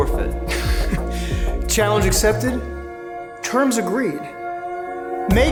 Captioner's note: chuckles